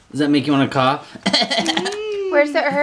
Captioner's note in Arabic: أدعي السعال; أدعي السعال